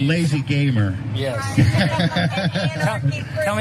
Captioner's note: laugh